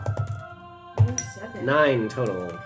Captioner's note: dice rolls